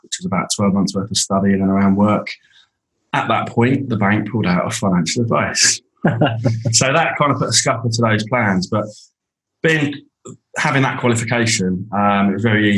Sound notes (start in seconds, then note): 6.0 group laughing